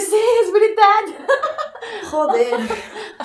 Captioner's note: laughs